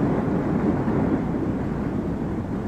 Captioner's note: none